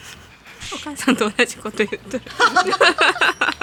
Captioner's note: laughs